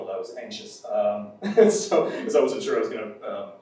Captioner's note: laughs